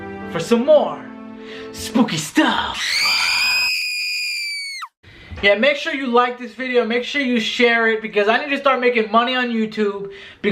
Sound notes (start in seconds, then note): 2.7 shrieking